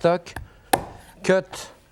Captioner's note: knife chops